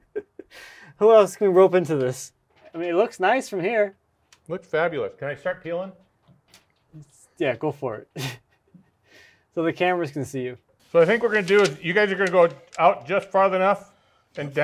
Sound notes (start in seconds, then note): 1.2 laughing; 8.2 laughing